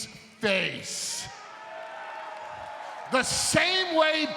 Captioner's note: audience cheering and applauding